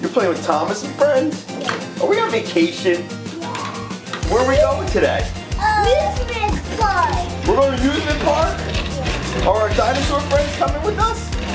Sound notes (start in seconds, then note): 1.3 in Unison; 3.2 in Unison